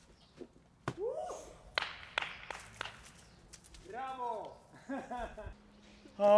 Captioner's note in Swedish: klappar händerna